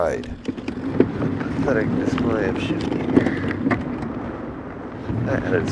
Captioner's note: gears grinding